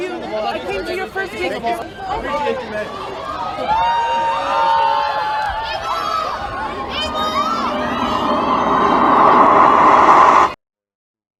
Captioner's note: crowd Cheering